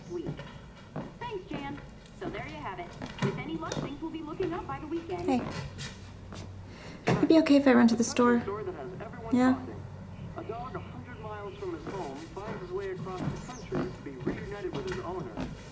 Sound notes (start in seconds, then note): 10.0 man on TV